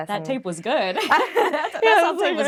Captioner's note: laughing